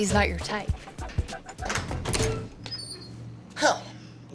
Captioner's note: door opens